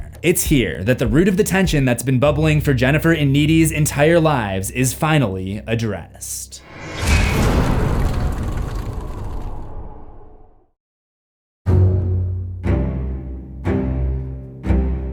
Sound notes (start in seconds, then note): 6.6 impact